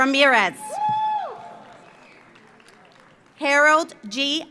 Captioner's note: audience cheers; audience applauds